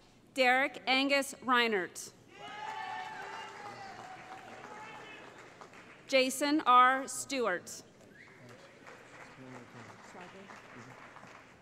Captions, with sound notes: Derek Angus Reinert [ Cheering ] Jason R. Stewart [ Applause ]